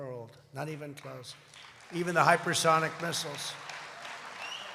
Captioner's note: applause